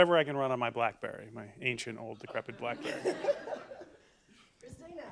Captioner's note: laughter